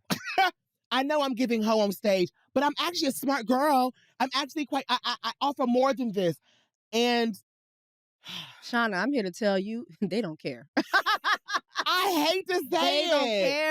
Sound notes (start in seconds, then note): 0.0 laughs; 7.3 sighs; 10.8 laughs